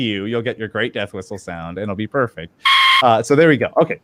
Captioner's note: quick death whistle squeak